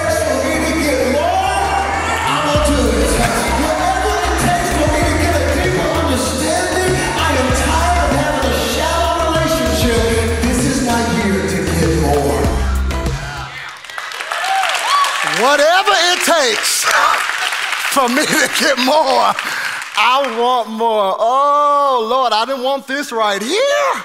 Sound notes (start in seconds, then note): 14.2 congregation applauding; 14.2 congregation cheering